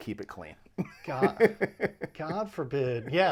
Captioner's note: laughing